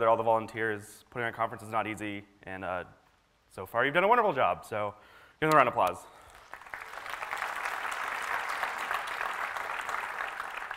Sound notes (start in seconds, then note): 6.2 applause